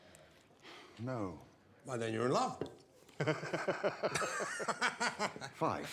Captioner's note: laughs